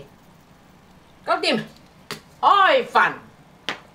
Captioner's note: Cantonese